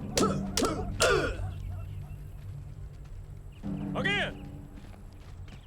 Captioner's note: sticks clacking; soldiers grunting